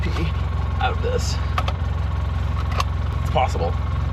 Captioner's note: ATV engine rumbling; seatbelt clicking